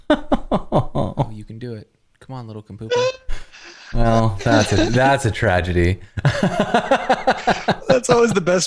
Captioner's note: laughter